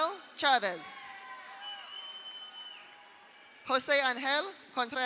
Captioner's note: audience cheers; audience applauds